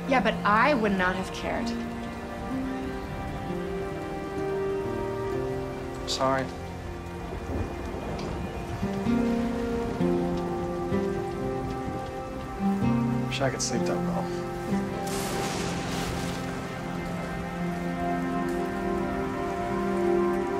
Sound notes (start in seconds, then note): 7.6 rain pattering on roof; 15.3 lightning; 17.0 rain pattering on roof